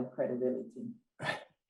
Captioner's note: chuckle